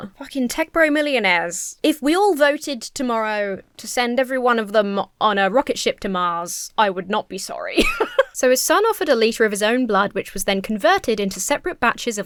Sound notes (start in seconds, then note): 7.7 laughs